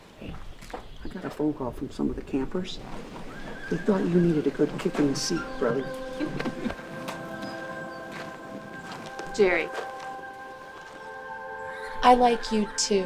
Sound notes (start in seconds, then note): 6.0 soft music; 6.0 Bonnie chuckles